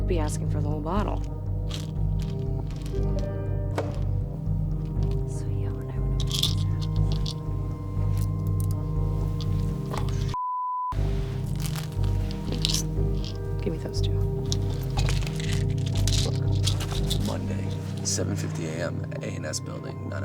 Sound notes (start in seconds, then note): 1.0 pills rattling over ominous piano; 4.0 distant thwack; 6.0 pills rattling over muffled student chatter